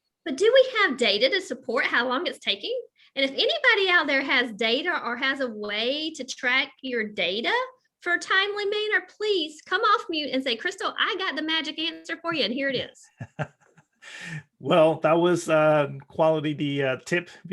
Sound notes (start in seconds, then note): 13.1 chuckling